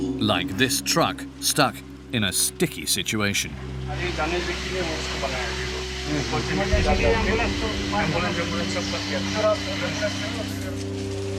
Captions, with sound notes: Like this truck stuck in a sticky situation. [Dzongkha spoken audio]